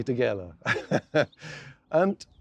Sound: laughing

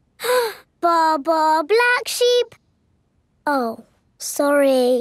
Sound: inhales

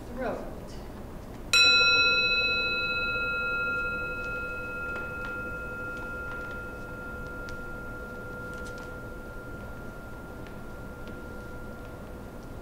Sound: gong

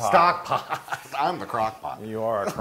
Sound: laugh

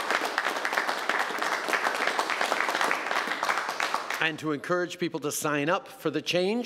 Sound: applause

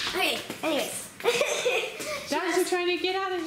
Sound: laughs

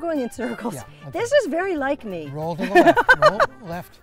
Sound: laughs

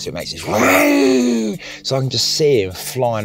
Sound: mimicking engine revving

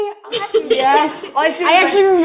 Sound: girls laugh

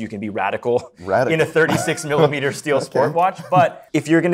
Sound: laughing

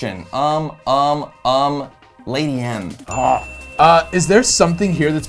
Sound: bell dings

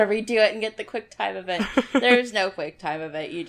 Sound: laughs

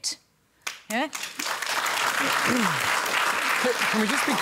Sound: applause

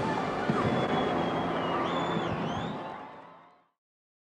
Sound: audience cheering

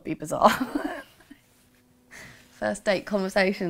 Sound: laughing

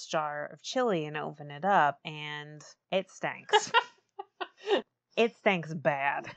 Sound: laughs

